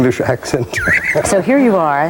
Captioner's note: laughing